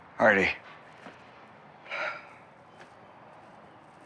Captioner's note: Hardy sighs